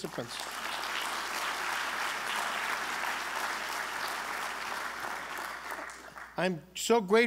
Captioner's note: applause